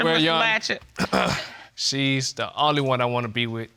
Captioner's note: clears throat